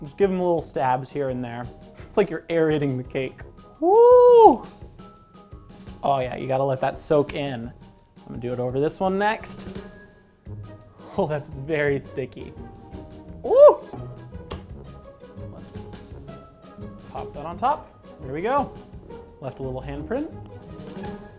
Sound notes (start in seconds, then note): 13.4 yells